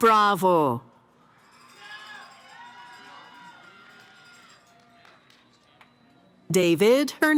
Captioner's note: cheering